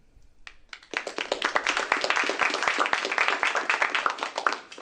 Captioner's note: applause